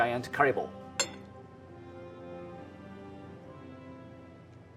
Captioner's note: tapping bowl